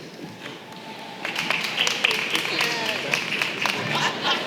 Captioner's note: applause